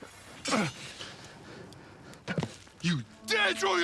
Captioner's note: Volnard groans